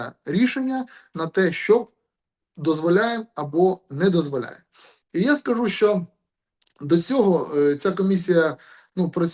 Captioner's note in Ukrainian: сопіння